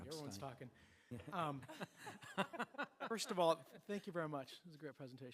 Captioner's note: laughter